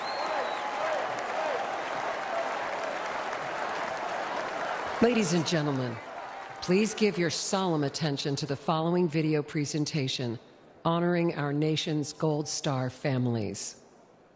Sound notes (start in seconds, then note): 5.6 chanting "fight"